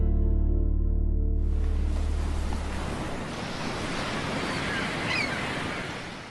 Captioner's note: gulls squawk; waves gurgle; wind whistles